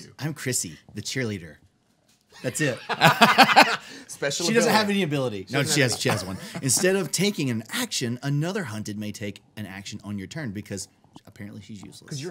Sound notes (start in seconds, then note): 2.4 group laughing